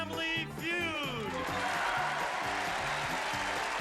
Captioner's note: applause